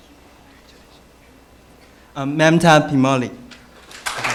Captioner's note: applause